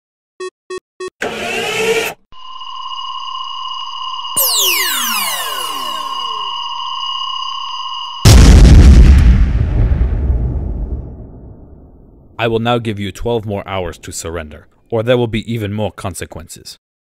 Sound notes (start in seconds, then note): 0.3 booping sounds; 0.3 laser firing; 1.2 mechanical whirring; 8.2 boom